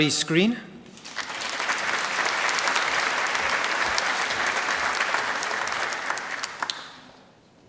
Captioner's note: applause